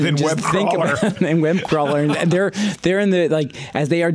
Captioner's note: laughs